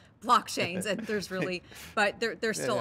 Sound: chuckles

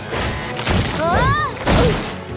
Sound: groaning

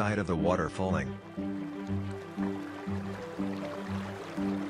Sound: flowing water

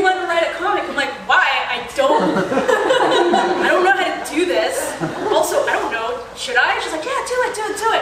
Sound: laughter; laugher

